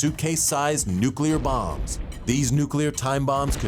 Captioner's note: bomb exploding